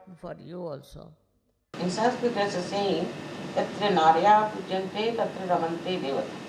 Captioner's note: hlNDl TALK